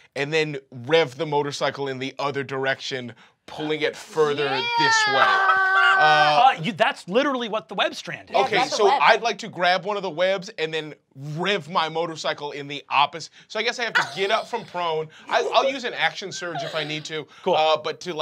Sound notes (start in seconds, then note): 5.7 laughs